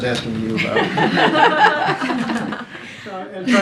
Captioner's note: laughter